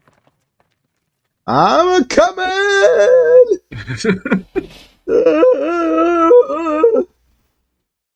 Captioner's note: yells